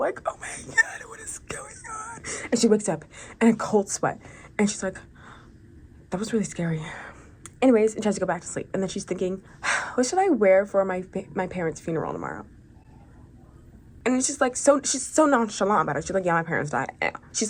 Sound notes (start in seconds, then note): 9.7 sigh